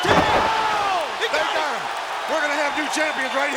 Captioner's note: audience cheers